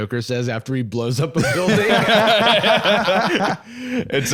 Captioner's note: all laughing